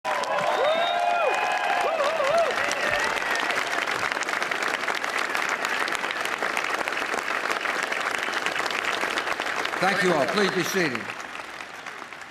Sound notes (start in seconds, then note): 0.0 applause